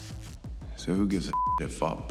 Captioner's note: beeping